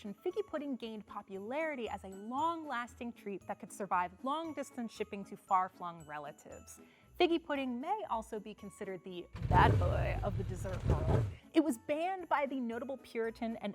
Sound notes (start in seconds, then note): 9.4 engine loudly rumbling